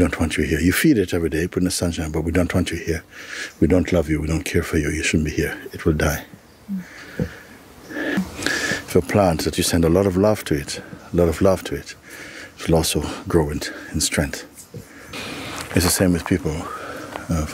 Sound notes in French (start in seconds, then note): none